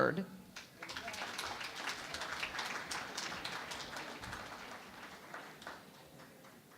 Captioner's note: applause